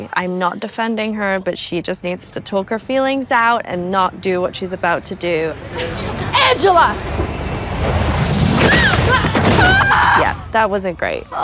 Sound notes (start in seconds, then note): 8.5 skate thuds; 8.6 Angela screams